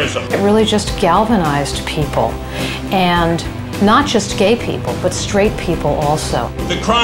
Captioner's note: voiceover